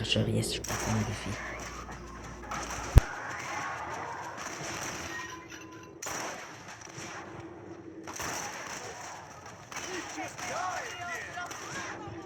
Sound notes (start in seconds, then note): 2.1 sounds of greeting; 6.0 sounds of cold blood and shoot; 6.0 stray bullet shot